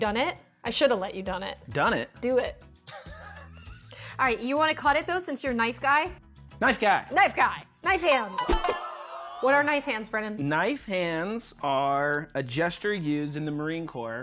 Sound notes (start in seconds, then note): 2.8 laughter